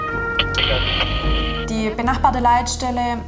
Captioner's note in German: Sirene, Funkspruch